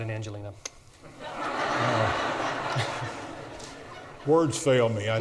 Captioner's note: audience laughs